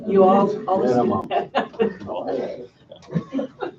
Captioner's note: laughing